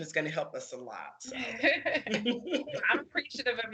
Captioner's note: laughing